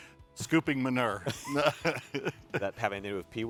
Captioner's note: both laugh